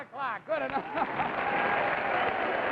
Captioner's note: audience claps; laughs